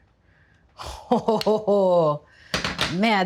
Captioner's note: Julia laughing